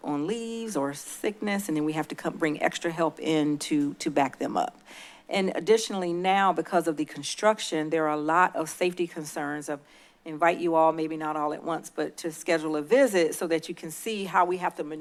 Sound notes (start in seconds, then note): none